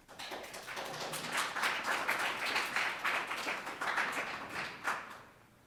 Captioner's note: audience applauding